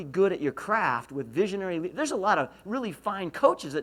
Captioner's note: none